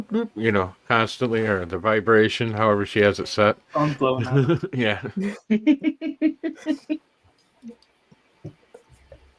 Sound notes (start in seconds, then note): 5.7 laughter